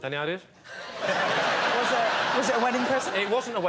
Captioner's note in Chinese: 笑声